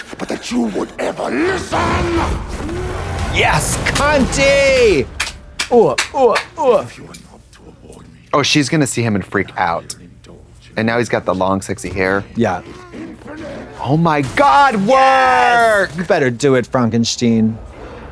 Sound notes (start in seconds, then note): 5.5 Katya hoots